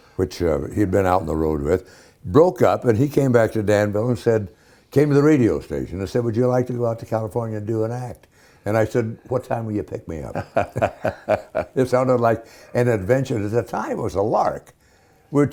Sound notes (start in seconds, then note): 10.2 Ken Howard laughing